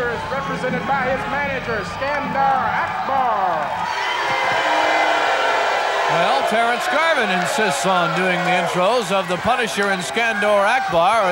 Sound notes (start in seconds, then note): 4.5 booing